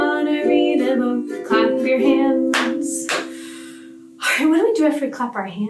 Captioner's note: hands clapping